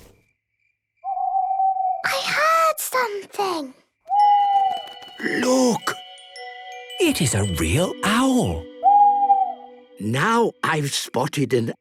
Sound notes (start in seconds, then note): 1.0 owl hooting; 4.0 hooting; 8.0 hooting